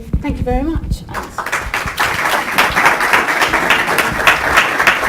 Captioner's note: applause